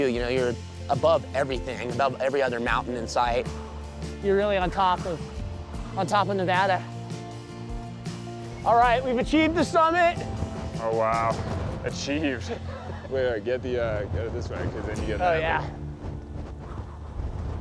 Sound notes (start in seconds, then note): 12.3 chuckling